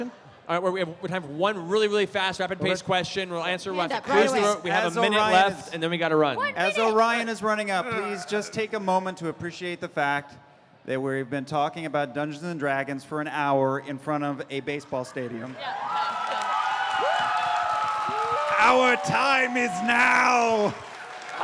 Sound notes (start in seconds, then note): 14.8 cheering